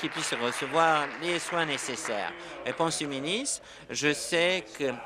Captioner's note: applause